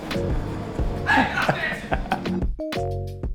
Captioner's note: chill music; laughs; chill music